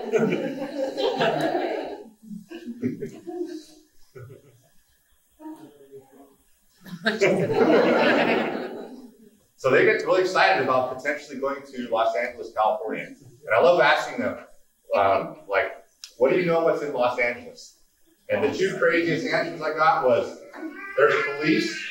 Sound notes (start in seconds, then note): 0.0 laughing; 3.1 someone speaking off mic; 6.8 laughing